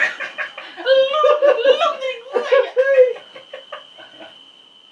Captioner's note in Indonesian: ketawa monyet